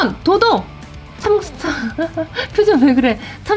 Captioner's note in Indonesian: tertawa